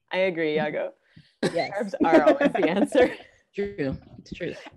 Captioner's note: laughing